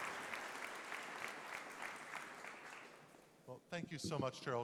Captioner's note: applause